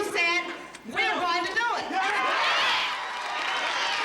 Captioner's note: cheers